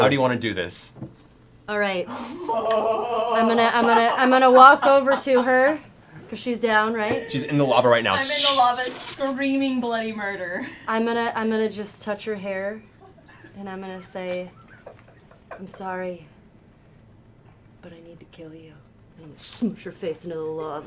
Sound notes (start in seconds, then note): 15.3 tender voice